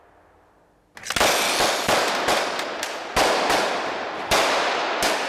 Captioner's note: gunfire blasting